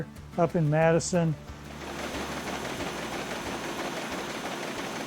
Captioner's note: printing press running